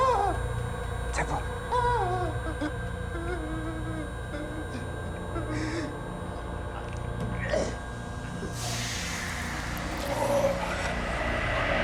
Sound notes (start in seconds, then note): 1.6 Faraday sobbing; 2.0 eerie music